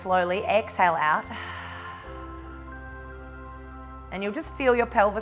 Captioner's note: exhales